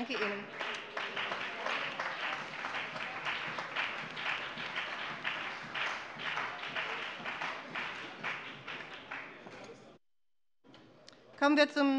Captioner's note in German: Beifall bei der CDU und dem BÜNDNIS 90/DIE GRÜNEN